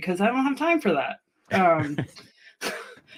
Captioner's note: laughter